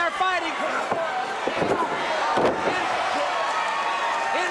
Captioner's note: crowd cheering